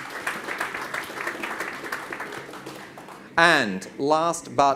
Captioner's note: audience claps